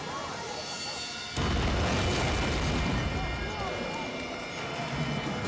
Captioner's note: explosion blasting